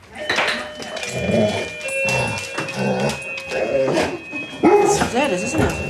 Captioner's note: doorbell rings, dog whines excitedly; barks